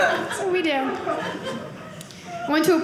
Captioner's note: audience laughing